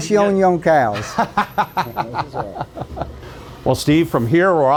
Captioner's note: laughing